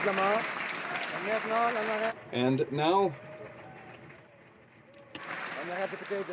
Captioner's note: some Applause